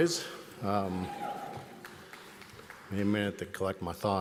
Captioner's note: audience applauds